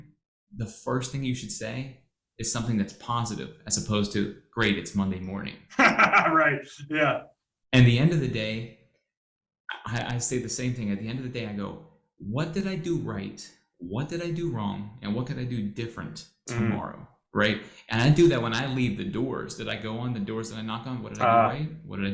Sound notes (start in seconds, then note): 5.7 laughs